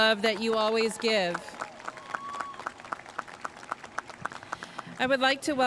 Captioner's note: audience cheering and applauding